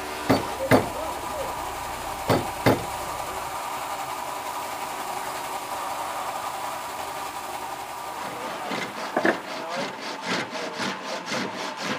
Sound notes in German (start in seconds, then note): 8.4 Sägen, leises Gemurmel